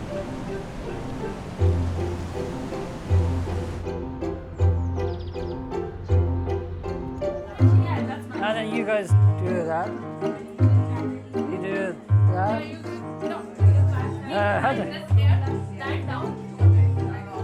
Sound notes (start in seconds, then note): 0.0 waves crashing; 4.1 birds chirping; 4.3 cheerful music